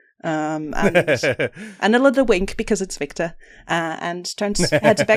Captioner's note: laughs